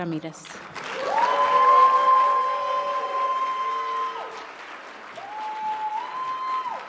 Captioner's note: audience cheering and clapping